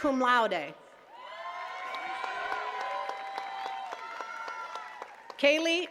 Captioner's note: attendees cheering and clapping